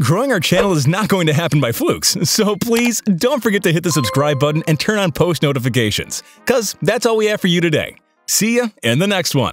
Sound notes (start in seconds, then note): 3.9 bell sings